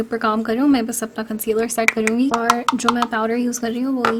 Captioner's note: taps brush